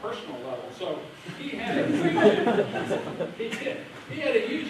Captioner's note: laughter